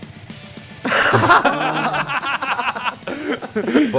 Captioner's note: laughter